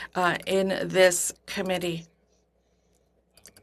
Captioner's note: speaking French